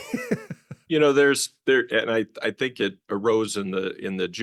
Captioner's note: laughs